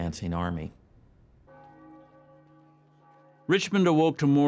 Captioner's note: bells ringing